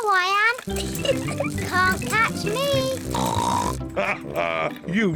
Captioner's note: giggles; snorts